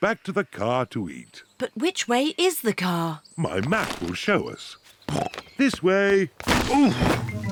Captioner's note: snorts